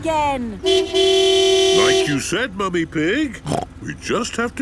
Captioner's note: honking; snorts